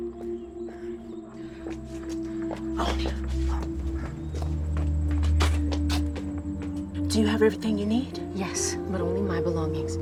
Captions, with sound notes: [whispers] Oney. Do you have everything you need? Yes, but only my belongings.